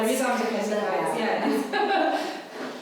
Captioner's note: laughing